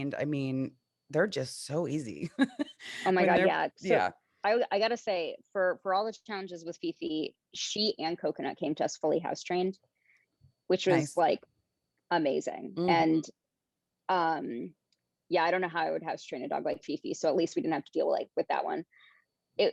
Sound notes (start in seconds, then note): 2.2 chuckles